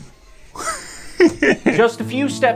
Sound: chuckling

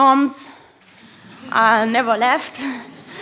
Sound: laughter

